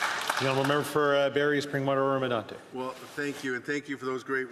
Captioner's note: applause